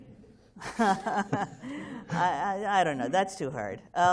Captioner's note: laughs